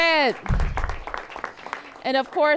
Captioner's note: applause